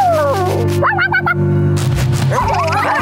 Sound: quacking

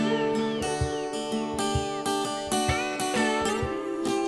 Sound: bird tweeting

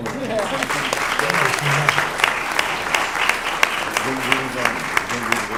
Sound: applause

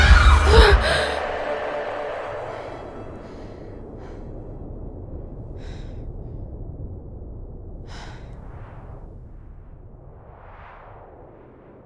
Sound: frightening music; heavy breathing; wind

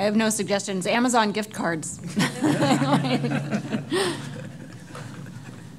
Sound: all laughing

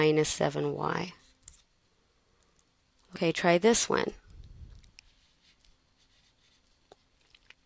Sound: pause

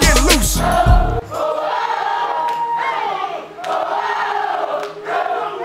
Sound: crowd

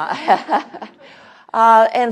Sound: laughs

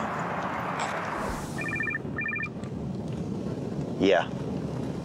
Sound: phone rings

